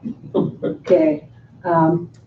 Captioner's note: chuckling